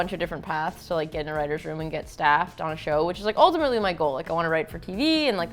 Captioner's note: none